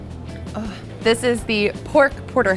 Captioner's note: groans